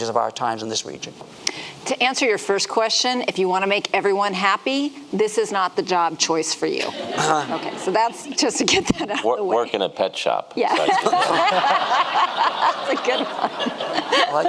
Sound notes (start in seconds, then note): 6.8 audience laughing; 10.7 laughing